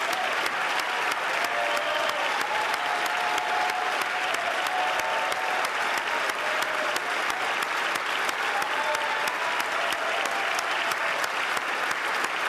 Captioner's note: cheers & Applause